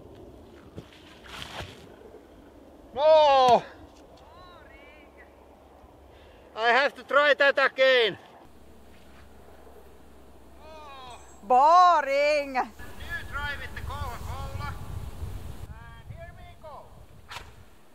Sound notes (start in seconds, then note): 1.1 quieter whoosh; 17.2 whoosh